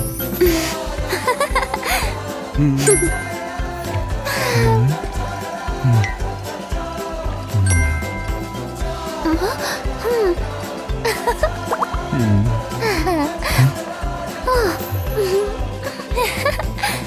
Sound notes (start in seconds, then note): 0.5 laughs; 3.0 chuckles; 4.2 CONY sighs happily; 7.6 grunts gently; 9.3 gasps; 11.0 chuckles; 11.8 grunts nervously; 12.7 CONY giggles; 15.8 CONY giggles